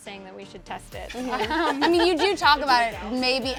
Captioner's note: laughs